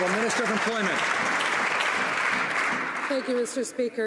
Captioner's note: some Applause